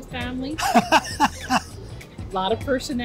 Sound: laughs

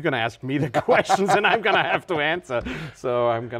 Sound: laughing

